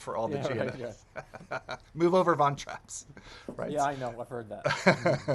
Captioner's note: laughs